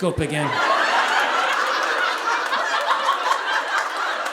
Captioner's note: audience laughing